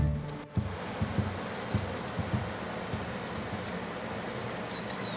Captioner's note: water flowing; birds chirping